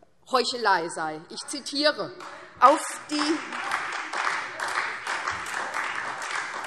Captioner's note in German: Beifall SPD und Freie Demokraten